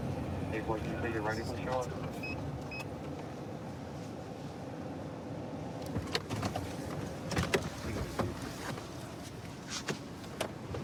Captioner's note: indistinct dispatch speech